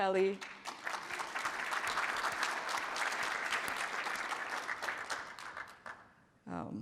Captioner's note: applause